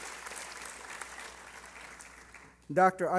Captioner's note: applause